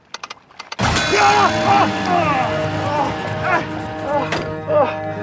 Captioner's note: exclamations